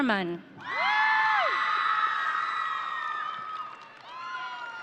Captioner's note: audience cheering